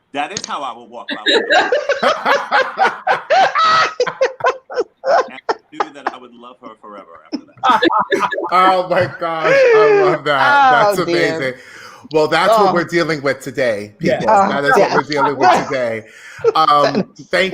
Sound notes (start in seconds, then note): 2.2 group laughing loudly